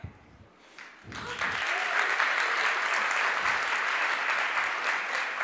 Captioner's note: audience applauds